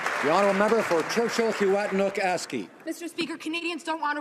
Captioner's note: some Applause